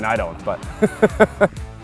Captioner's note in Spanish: se ríe